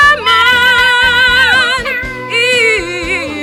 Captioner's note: screeches